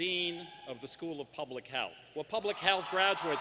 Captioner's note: applause